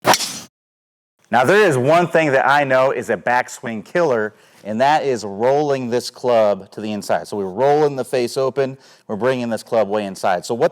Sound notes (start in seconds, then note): 0.0 logo whooshing